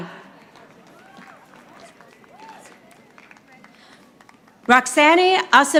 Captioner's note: audience applauding